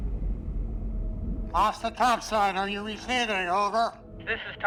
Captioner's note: speaking over radio